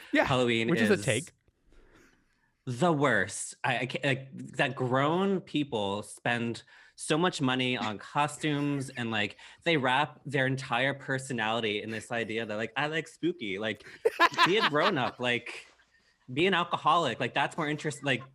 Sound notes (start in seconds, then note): 8.5 group laughs; 13.8 laughs